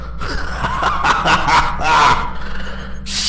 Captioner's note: laughter